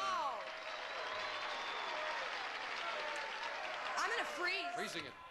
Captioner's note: audience applauding